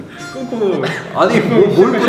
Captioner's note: verge of crying